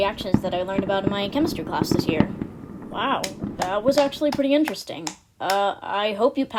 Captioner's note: applause